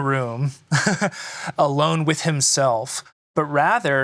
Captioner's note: laughs